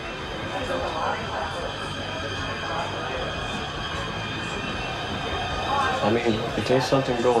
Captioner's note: patrons chattering; tense music